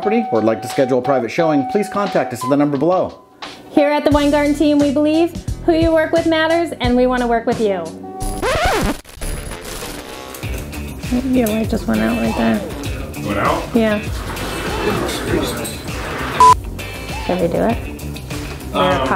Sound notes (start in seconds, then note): 8.2 record scratching; 10.4 rhythmic music; 16.4 beep